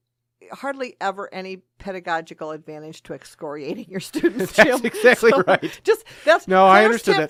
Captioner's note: both laugh